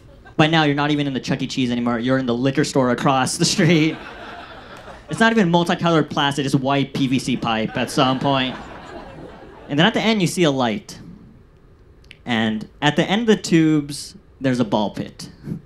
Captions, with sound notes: By now, you're not even in the Chuck E. Cheese anymore. You're in the liquor store across the street. (audience laughs) It's not even multicolored plastic. It's white PVC pipe at some point. And then at the end, you see a light. And at the end of the tubes, there's a ball pit,